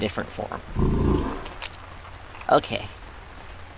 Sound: Azazel Groans

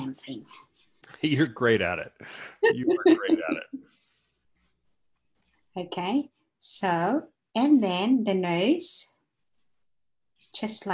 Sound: laughs

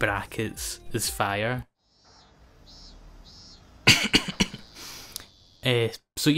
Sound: cicada noises

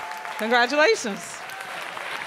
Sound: applause

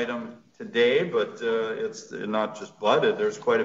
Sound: speaking softly

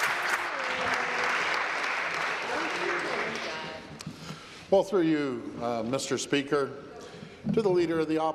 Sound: applause

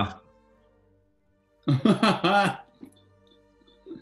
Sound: laughing

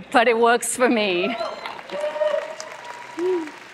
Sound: applause

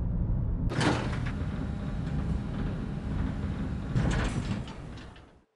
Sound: spacecraft shifting

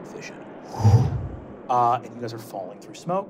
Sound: wooshing

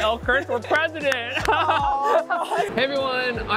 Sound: laughing

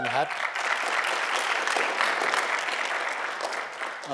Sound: applause

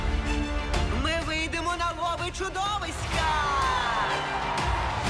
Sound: dramatic music continues; crowd cheers

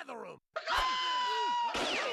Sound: screaming

